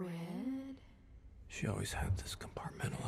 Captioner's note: narrating